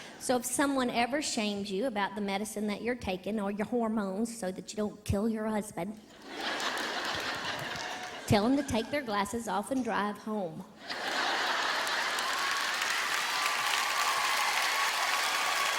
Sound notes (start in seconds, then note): 6.1 audience laughing; 10.8 audience clapping and cheering